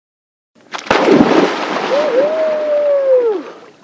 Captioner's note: splash